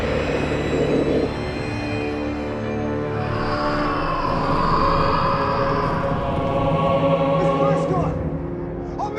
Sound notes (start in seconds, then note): 3.0 The Patriarch shrieking; 3.0 eerie music